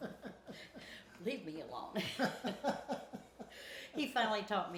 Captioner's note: both laughing